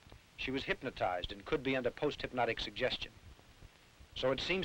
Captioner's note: none